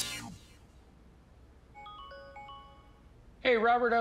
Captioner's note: computer jingles